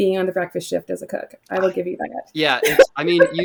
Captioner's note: laughs